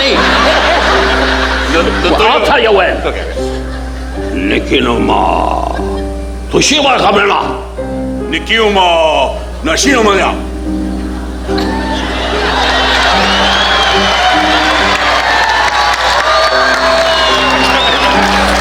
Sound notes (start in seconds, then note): 0.0 audience laughing; 3.9 Don imitating Japanese language; 7.9 imitating Japanese language; 11.0 audience cheering